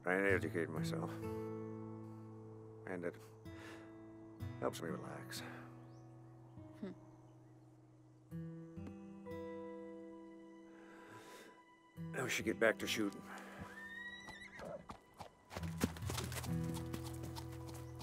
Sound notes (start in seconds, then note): 13.6 horse whinny, trotting